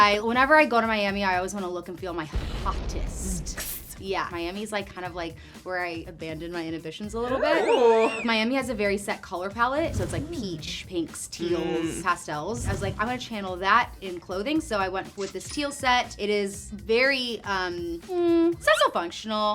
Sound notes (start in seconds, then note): 2.3 fire explodes; 3.5 imitates sizzling